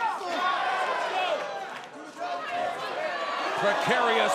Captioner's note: crowd shouting